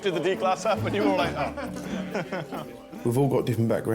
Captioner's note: chuckles